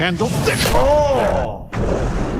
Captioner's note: face punch